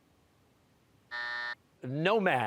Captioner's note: buzzer